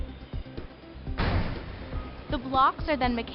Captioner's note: cube bangs loudly